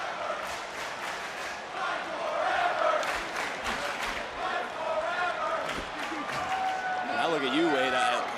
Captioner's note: crowd chants, "fight forever"